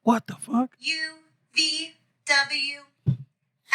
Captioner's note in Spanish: Hablando en idioma extranjero